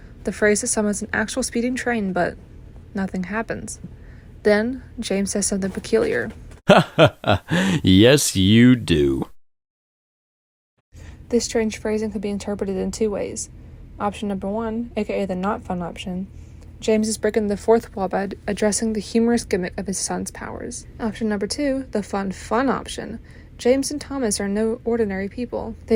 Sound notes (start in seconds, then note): 6.6 laughs